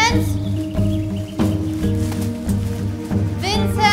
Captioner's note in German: Vogelgezwitscher